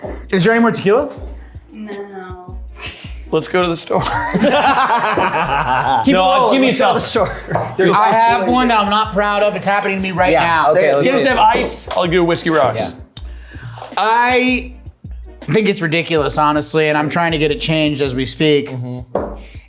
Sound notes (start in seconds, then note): 4.0 everyone laughing